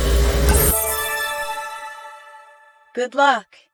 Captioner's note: chime ringing